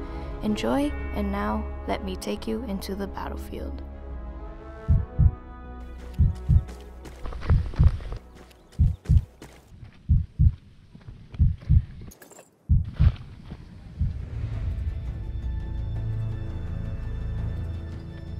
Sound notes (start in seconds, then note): 6.0 heartbeat